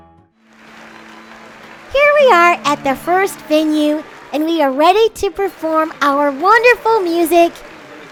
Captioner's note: clapping sounds from crowd